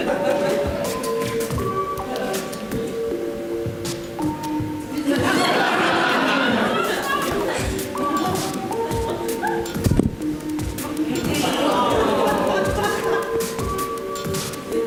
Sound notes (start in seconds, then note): 4.9 audience laughs